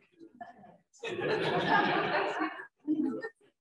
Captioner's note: laughter